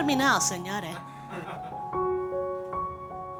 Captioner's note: laughter